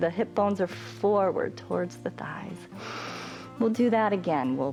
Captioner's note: inhales